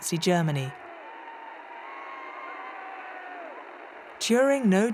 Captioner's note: crowd cheering